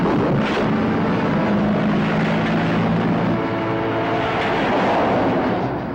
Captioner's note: truck thuds and collides with car